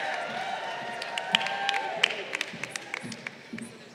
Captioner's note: crowd cheering